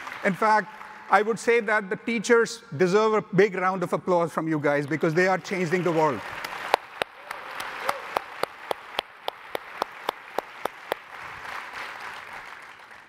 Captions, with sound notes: In fact, I would say that the teachers deserve a big round of applause from you guys because they are changing the world. (audience applauding) (audience cheering)